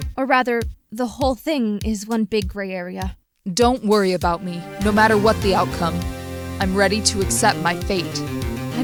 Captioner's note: none